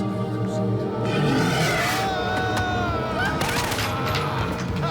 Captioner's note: minion roars; gun fires rapidly; laughs